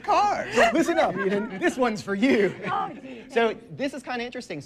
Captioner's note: laughs